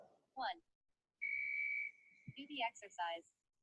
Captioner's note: whistle blowing